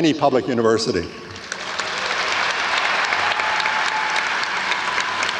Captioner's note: audience applauds